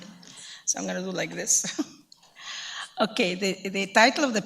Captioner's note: chuckles